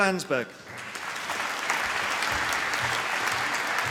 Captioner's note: applause